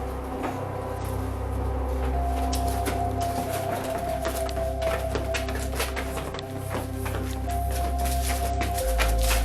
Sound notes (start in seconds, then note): 2.0 shuffling footsteps